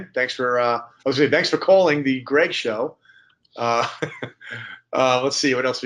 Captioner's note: laughs